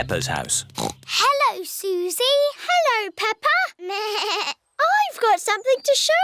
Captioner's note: snorts; bleats